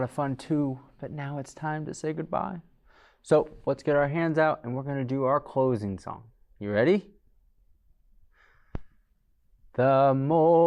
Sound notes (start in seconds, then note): none